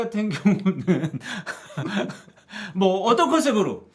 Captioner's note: laughing